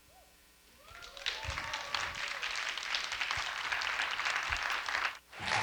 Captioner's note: audience applauding